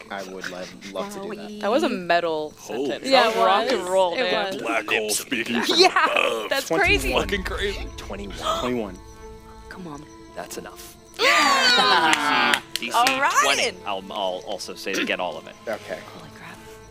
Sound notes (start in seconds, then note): 8.3 gasps; 11.2 all Cheering